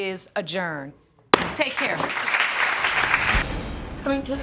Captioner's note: applause